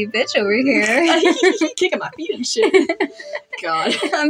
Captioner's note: giggle; snicker